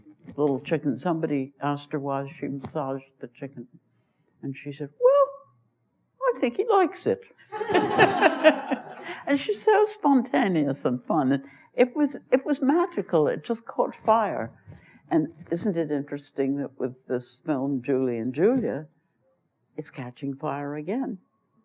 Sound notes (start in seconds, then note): 7.5 laughter; 7.5 laughs